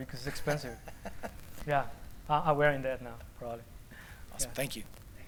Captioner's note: laughter